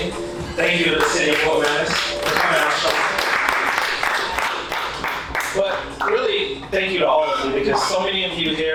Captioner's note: applause